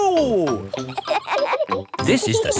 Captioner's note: kids laughing